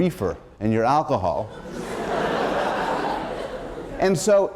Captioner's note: laughter